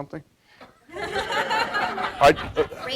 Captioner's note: laughter